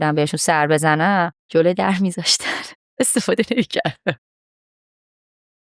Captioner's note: laughs